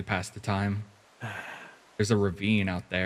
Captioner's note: sigh